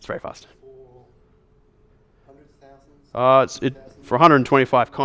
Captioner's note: voiceover